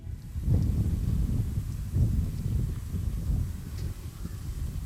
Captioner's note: wind blowing